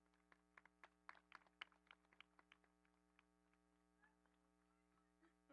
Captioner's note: audience applauding